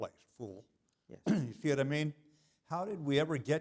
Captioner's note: cough